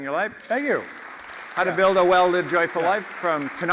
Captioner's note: applause